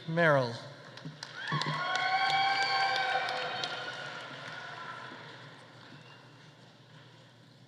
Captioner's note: audience applauding; audience cheering